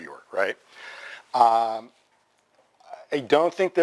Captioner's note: pause